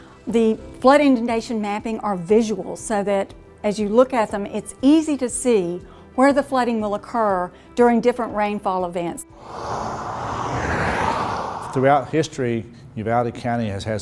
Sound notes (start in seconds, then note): 9.3 cars whooshing